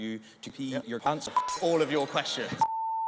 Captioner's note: crowd grows angry